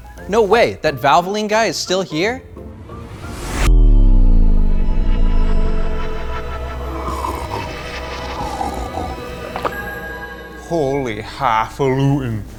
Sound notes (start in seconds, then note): 3.2 slow motion sound effect